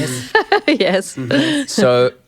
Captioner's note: laughs